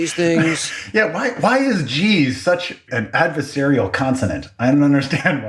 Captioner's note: laugh